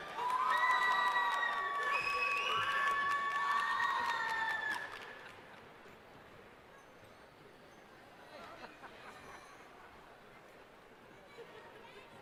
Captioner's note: cheering